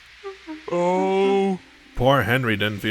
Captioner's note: Henry Moans Sadly